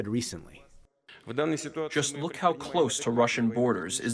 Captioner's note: through translator